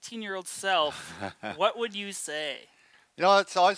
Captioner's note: laughs